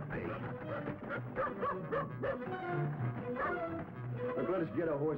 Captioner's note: dog barking